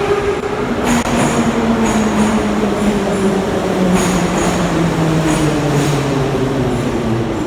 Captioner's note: arrival of train at the station